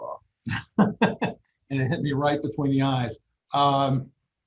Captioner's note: laughs